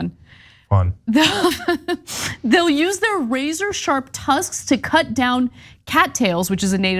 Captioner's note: laugh